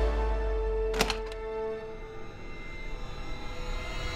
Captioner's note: door opens